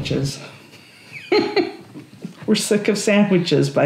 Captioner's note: laughs